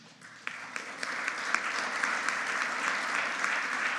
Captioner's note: audience applauding